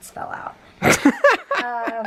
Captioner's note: laughing